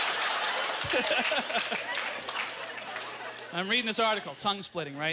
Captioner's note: audience laughter